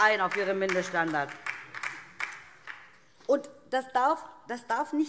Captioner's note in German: Beifall DIE LINKE